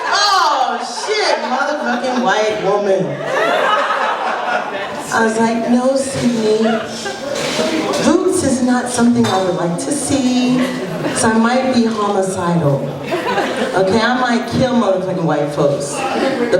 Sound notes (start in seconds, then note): 3.2 laughter